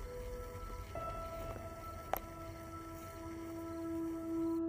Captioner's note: animal sounds